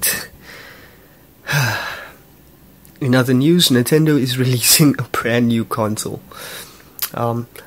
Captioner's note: sigh